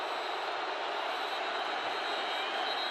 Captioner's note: whistle